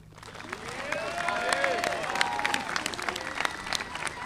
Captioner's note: audience applauding